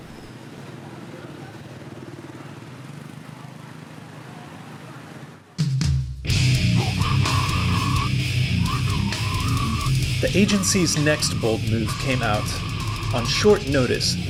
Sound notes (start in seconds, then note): 0.6 traffic humming; 6.2 metal music